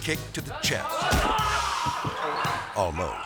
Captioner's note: master yelling; xylophone ascending